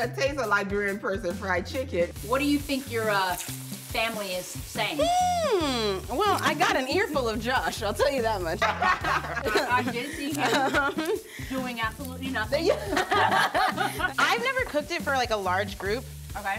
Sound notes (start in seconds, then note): 8.5 all laughing; 11.2 both laughing